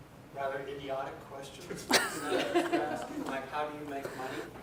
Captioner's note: laughing